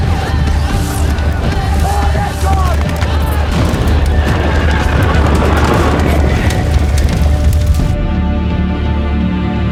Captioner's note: guns firing, shouting, crackling fire